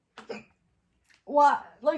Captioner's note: hiccups